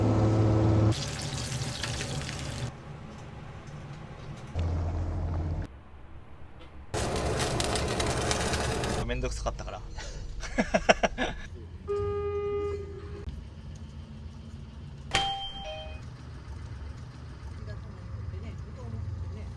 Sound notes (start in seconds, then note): 10.4 laugh